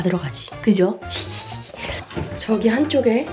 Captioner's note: hehehehe